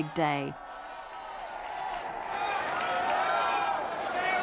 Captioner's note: crowd murmuring